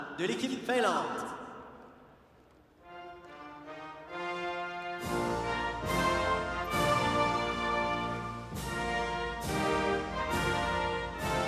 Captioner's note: speaking French